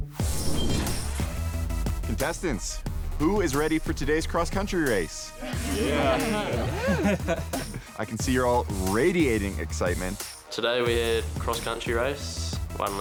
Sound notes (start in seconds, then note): 0.1 upbeat electronic music; 5.4 contestants laughing; 5.4 contestants cheer